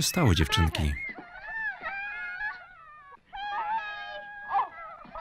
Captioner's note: girls crying